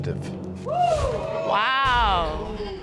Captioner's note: audience exclaiming